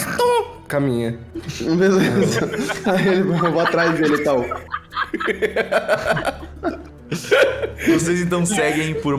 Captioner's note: laughs